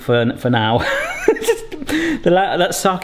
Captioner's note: laughing